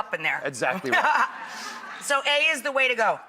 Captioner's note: and audience laughs